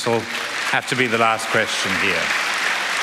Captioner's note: applause